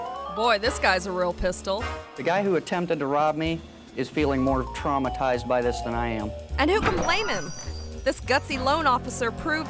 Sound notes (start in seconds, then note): 7.1 wind chimes chiming